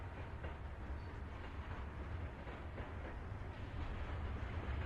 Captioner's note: trains rumble nearby